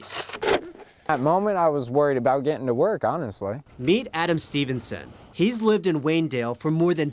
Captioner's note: shoveling